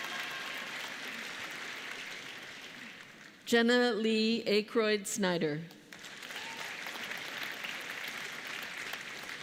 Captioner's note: applause